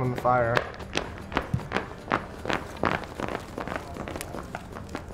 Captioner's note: feet slapping pavement